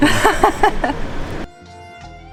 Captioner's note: laughs